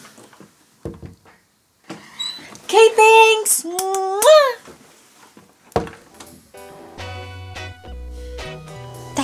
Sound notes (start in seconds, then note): 3.7 smooching noises; 6.3 groovy music continues